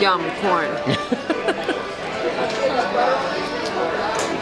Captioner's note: chuckling